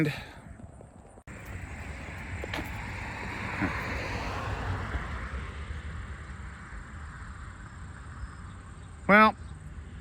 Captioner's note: Traffic on Paulding Road